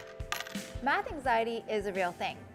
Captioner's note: coins clinking